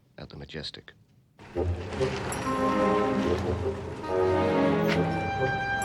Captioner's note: car engine revving; dramatic music